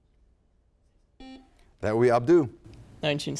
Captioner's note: buzzer sounds